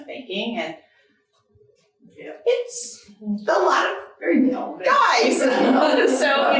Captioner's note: audience laughing